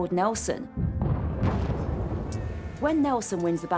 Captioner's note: cannons roaring